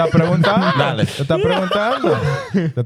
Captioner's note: speaking In Foreign Language